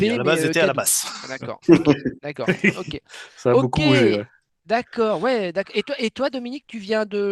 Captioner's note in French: rires